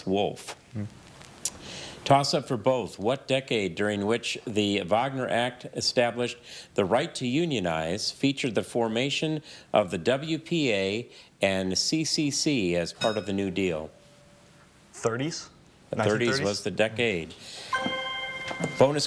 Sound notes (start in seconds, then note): 13.0 bell dings; 17.6 chime resonating